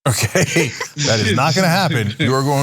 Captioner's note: laugh